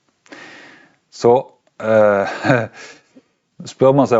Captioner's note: chuckles